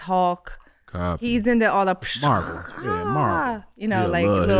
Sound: imitates fight sounds

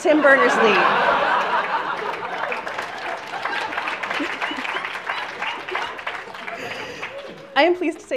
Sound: laughter and applause

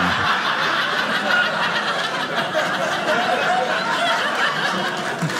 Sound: audience laughing

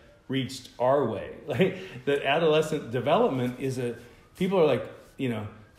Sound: laughter

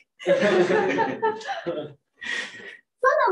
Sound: laughter

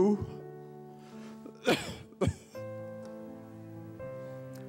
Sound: coughing

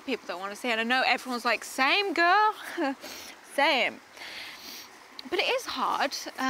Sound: sniffles

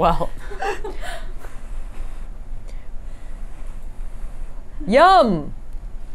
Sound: laughs

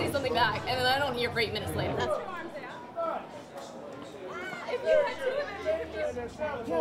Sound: crowd noises

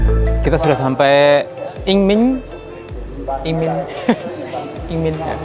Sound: cười; laughing

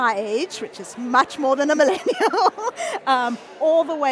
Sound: laughing

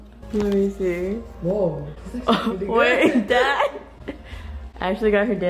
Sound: laugh

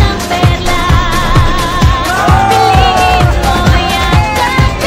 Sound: cheering

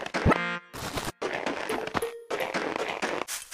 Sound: footsteps

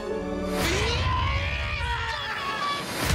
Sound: Kevin screaming

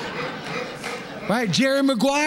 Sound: laughter

